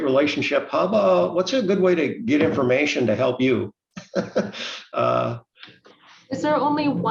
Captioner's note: laughs